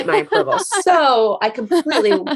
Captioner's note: laughing